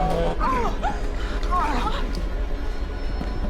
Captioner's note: groaning